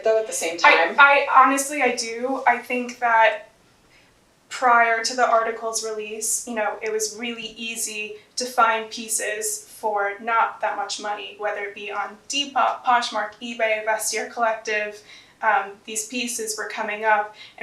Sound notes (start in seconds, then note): none